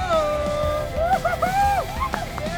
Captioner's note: cheering